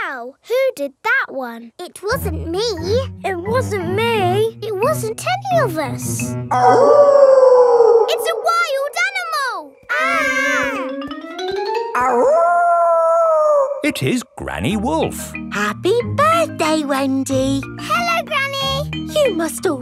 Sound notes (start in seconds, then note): 6.5 wolf howling loudly; 10.6 kids yelling; 12.0 howling